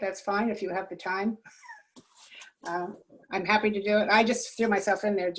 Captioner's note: laughter